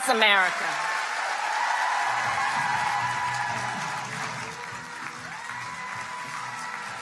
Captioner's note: crowd cheering; crowd clapping